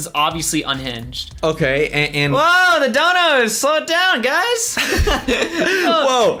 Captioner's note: laughs